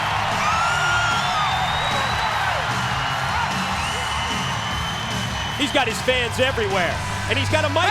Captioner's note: crowd cheering